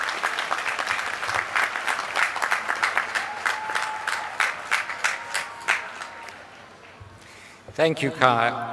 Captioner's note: applause